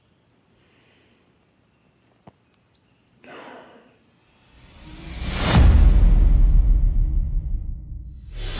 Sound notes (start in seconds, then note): 3.2 sighs